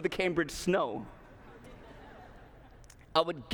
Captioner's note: laughter